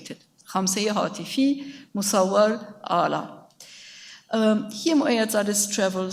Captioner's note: speaks in a foreign language